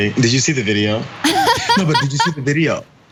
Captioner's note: laugh